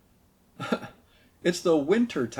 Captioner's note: laughs